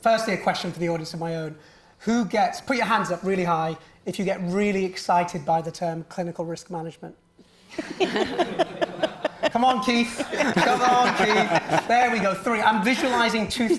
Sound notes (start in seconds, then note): 7.7 all laughing